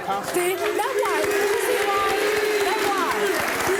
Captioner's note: cheering